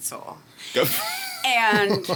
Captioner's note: laughing